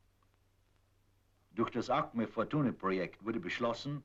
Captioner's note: in German